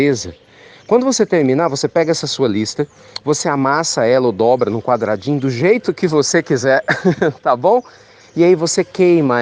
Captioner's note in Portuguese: risos